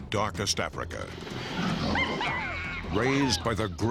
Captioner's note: apes screeching